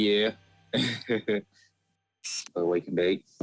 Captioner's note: chuckles